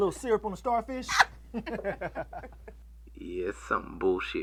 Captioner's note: both chuckle